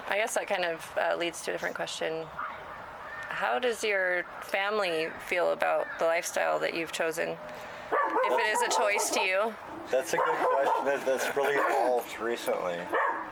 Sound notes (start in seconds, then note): 9.7 Frank, the dog, barking